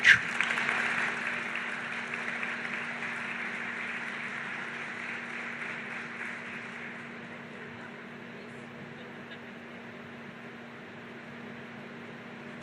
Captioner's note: applause